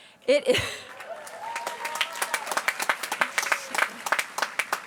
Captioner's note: applause